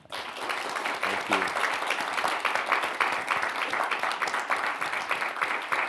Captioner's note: audience applauding